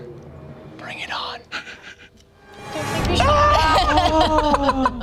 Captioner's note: laugh